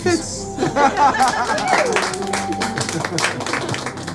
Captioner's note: crowd applauds